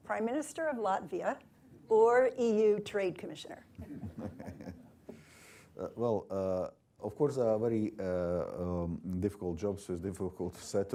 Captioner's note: laughter